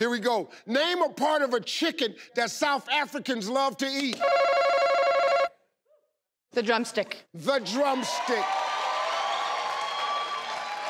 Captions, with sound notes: - Here we go. Name or part of a chicken that South Africans love to eat? (ringing sound) - The drumstick. - The drumstick. (crowd cheers)